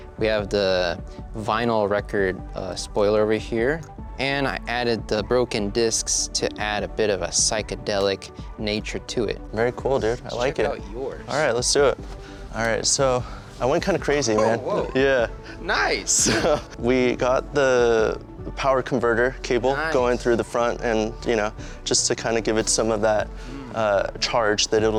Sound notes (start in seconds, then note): 16.2 laughs